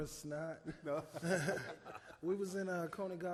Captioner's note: both chuckle